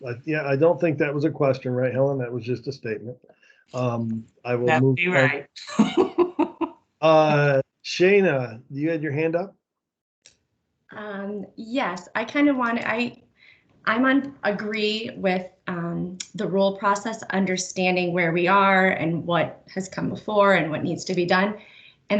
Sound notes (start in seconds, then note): 7.8 chuckles